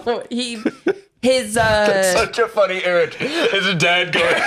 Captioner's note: laughing